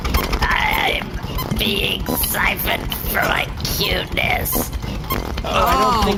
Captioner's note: groaning